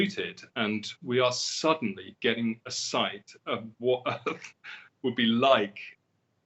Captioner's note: chuckles